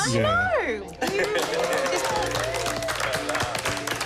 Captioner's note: applause